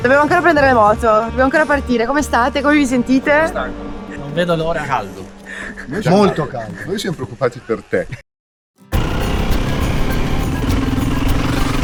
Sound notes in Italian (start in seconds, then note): 5.8 risate